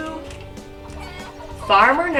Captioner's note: chickens clucking